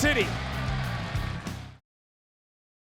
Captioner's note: upbeat music continues; crowd cheering continues